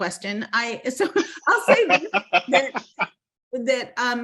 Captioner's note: laughing